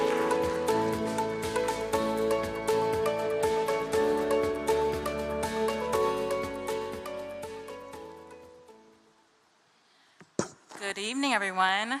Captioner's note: cheering and applause